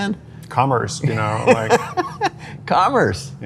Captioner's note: laughs